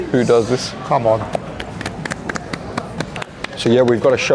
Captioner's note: people clapping